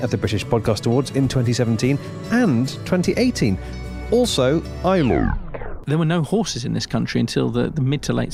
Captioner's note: glitch